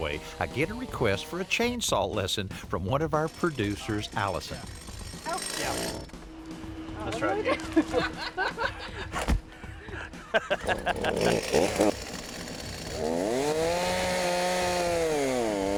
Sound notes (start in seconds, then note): 6.0 chainsaw revving; 9.5 laughing; 10.5 chainsaw revving